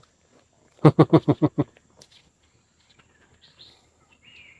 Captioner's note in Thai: เสียงหัวเราะ